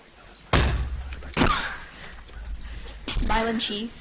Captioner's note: object thudding